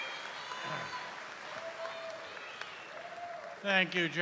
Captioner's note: cheers and applause